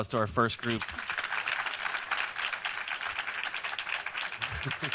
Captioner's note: audience applauds